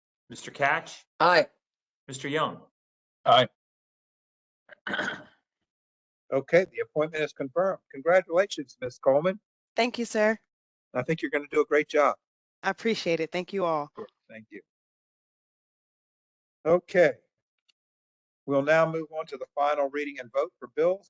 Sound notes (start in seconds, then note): 4.7 cough